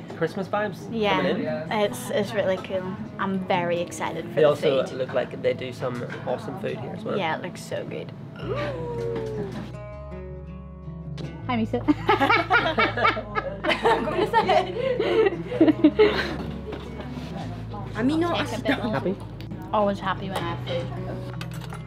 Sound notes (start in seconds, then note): 14.3 laughter